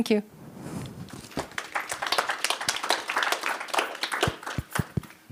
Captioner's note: applause